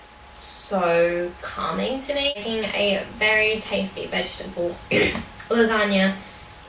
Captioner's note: coughs